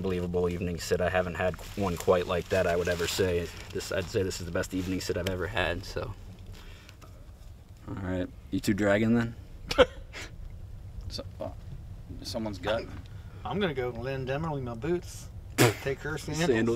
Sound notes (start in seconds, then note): 12.7 laughs